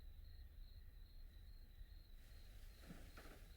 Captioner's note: none